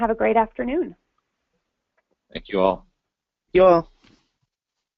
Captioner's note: pause